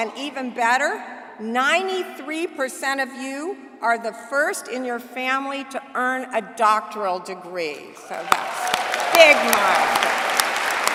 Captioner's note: applause